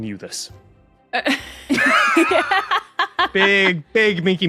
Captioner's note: guests laughing